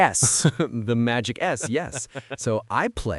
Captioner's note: chuckling